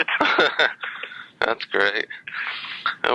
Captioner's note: laughs